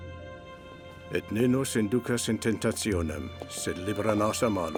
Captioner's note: Latin spoken audio